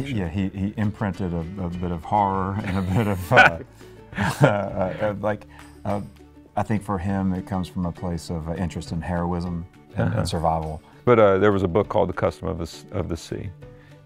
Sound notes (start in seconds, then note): 2.6 chuckles